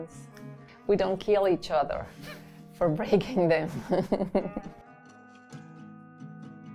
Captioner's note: chuckles; soft Latin music